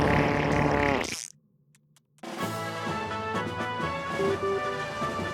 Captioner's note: loud fart; upbeat music